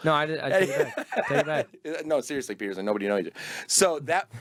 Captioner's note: laughing